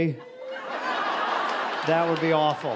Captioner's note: audience laughing